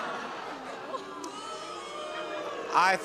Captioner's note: all laughing; audience boos